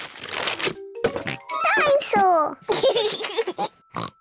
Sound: oinks; laughs; oinks

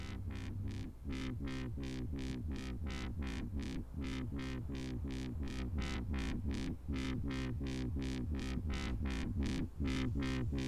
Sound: humming sound

